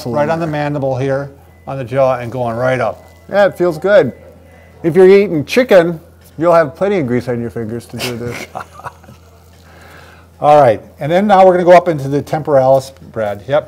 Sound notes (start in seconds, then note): 7.9 laughing